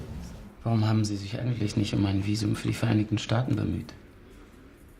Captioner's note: in German